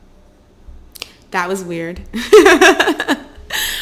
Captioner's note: laughs